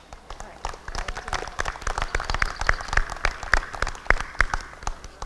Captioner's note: applause